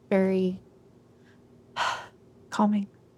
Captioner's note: deep Breath and Exhale